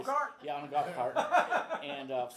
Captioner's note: laughs